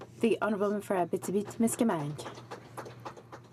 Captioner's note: speaking french